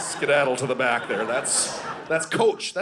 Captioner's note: audience laughing